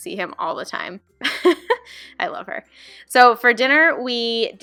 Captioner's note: laughing